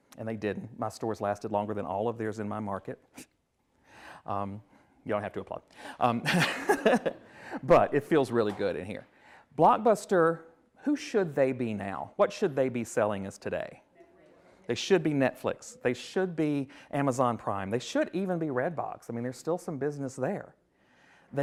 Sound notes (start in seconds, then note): 3.2 scoffs; 6.2 laughs